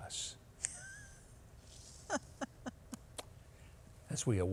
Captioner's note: laughing